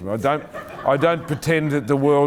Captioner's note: laughing